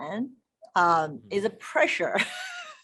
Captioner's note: laughing